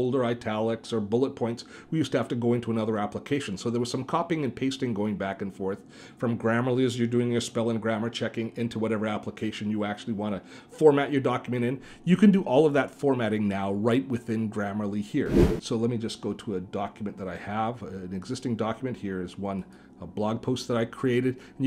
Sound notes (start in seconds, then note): 15.2 whooshing